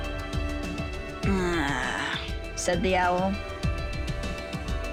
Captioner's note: growls